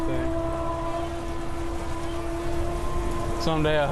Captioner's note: hydraulics whirring